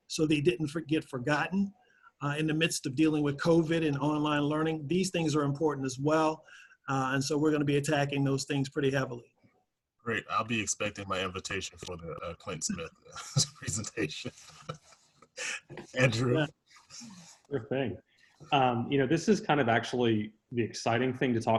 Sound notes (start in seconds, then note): 12.3 laughs